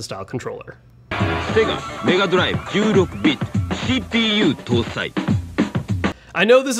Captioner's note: announcer speaking foreign language